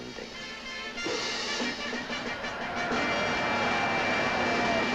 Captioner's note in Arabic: هتاف الجمهور